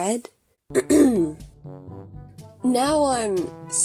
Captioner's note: ahem